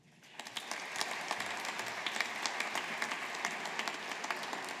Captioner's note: audience applauding